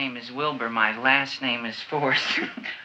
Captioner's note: laughs